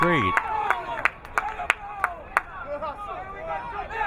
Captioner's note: crowd cheering